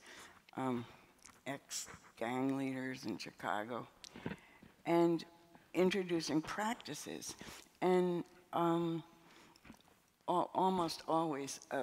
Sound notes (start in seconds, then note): none